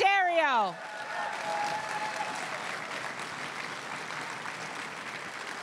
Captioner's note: crowd cheering and applauding